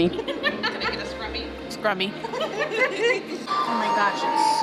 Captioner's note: everyone laughs